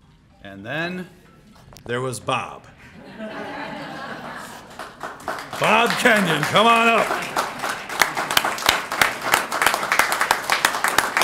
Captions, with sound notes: And then there was Bob. [LAUGHTER] Bob Kenyon, come on up. [APPLAUSE]